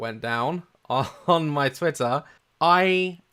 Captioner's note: chuckle